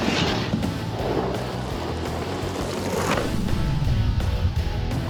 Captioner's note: skateboard wheels crunching